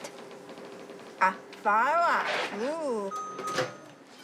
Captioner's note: book chimes